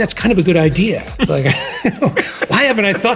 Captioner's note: chuckling